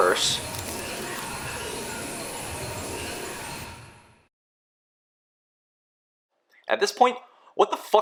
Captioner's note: silence